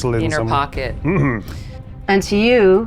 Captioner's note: throat clearing